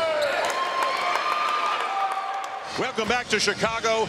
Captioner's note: crowd cheering